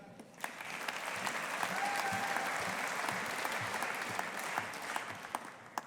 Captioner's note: audience applauding